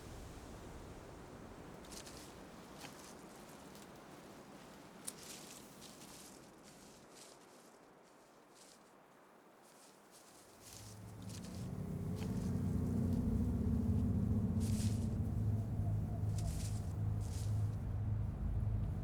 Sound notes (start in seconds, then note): 10.7 suspenseful music; 15.9 owl hooting